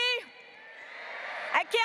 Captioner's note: graduates cheering